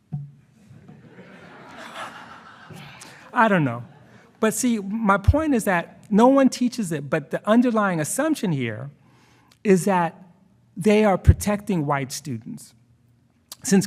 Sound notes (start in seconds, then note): 0.8 attendees laughing